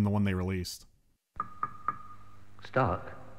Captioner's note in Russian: тук-тук-тук